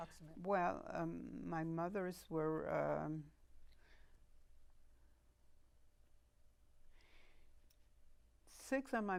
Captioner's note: pauses 6 seconds